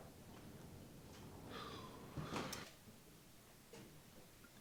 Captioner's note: Clayton sighs